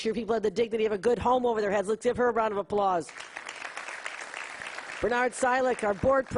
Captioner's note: applause